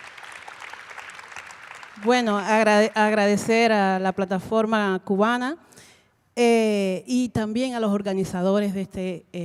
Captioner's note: Spanish language 00:31:53